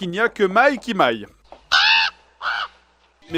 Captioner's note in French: cris de corbeau